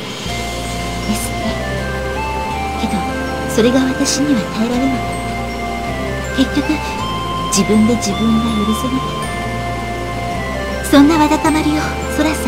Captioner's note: rain; rain